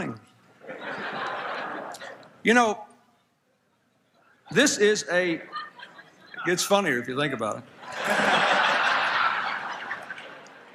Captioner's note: laughter